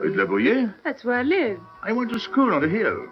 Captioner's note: French